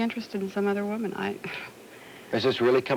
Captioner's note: gasps